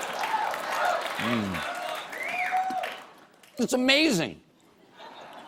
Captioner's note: laughter